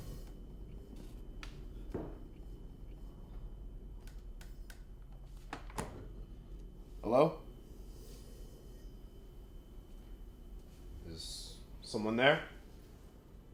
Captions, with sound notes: (creepy suspenseful music) (soft bang on wooden floor nearby) (fridge door closes) Hello? - Is someone there?